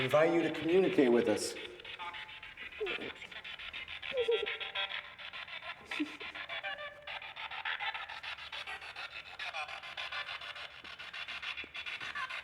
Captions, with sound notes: we invite you to communicate with us. (Spirit Box crackling) (Isabel sobbing)